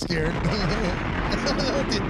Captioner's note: laughing